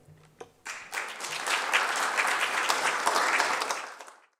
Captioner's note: applause